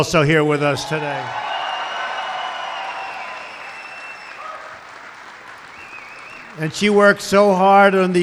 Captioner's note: applause